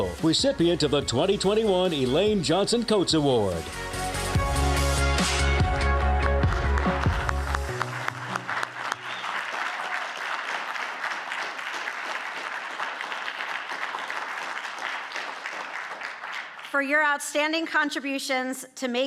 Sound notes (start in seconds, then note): 4.1 upbeat music; 7.0 audience clapping